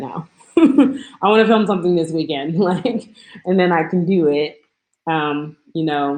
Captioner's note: laughs